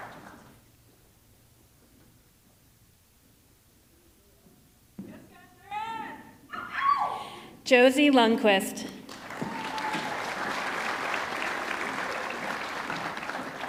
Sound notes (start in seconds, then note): 6.6 attendee cheering; 8.9 audience clapping